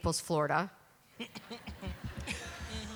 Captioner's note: laughter